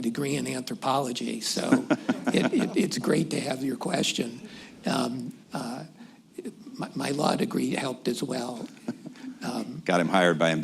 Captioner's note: laughter